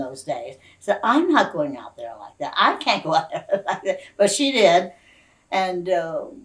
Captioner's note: laughs